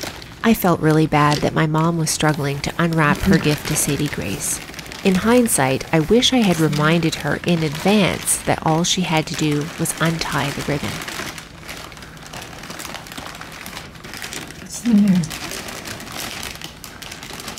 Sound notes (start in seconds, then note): 11.1 paper crinkling